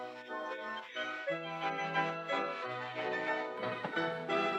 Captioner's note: hoppy laughs